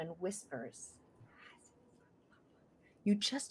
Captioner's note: whispering